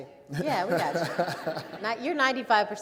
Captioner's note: all laugh